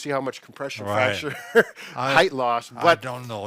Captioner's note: laughs